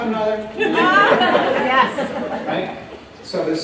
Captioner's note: laughter